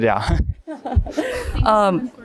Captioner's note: laughs